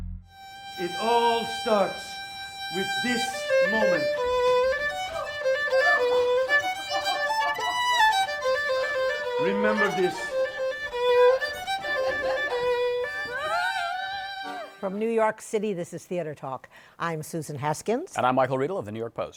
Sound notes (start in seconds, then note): 5.5 both laugh; 11.4 laughter continues